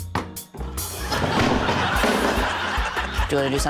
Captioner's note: thud!